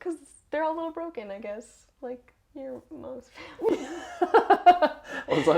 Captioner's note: laugh